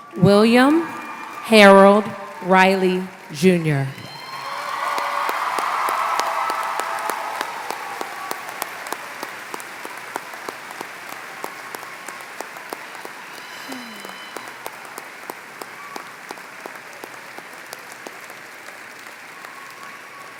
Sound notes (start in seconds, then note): 4.9 applause